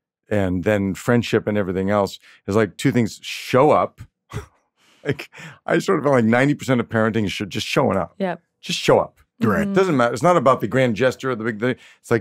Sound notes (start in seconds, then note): 5.1 chuckles